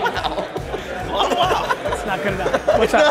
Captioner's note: laughs